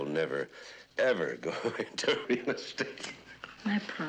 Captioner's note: laughing